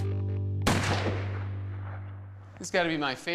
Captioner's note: gunshot